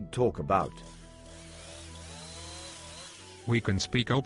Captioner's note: chainsaw noise in background